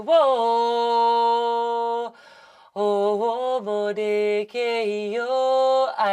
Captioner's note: different language